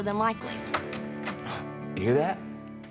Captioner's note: door opens; gasps